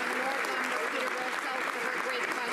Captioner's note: some applause